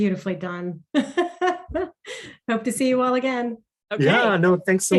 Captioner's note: laughs